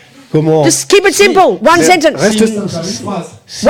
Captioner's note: speaking in French